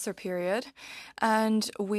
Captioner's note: speaking french